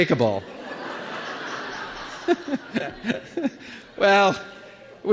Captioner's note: laughter